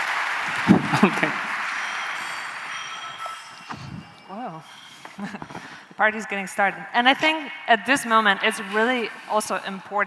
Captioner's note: applause